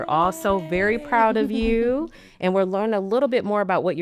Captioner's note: podcaster chuckling